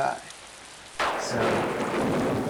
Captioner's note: thunder clap